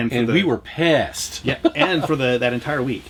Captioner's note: laughs